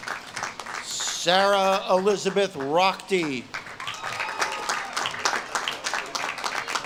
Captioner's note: audience claps and cheers